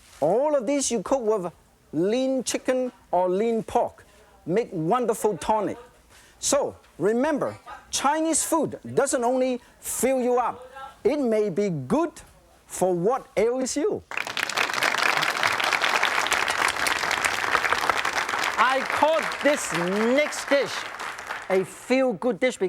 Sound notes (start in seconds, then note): 14.1 audience applauds